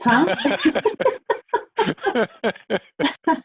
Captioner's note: both laugh